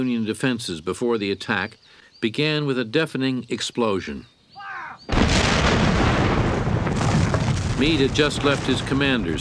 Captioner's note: explosion